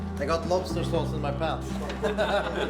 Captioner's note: group laughing; laughing